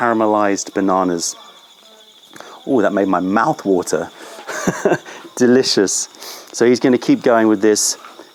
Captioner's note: laughter